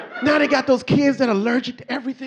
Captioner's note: audience laughing